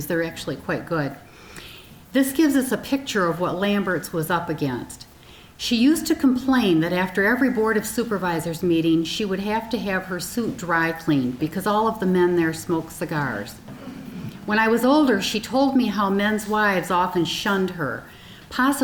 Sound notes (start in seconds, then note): 13.9 audience chuckling